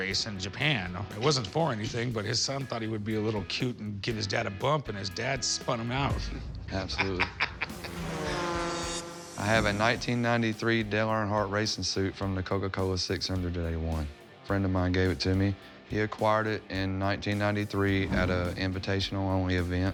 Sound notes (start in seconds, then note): 7.0 laughs; 7.6 engines roaring